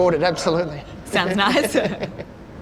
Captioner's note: chuckles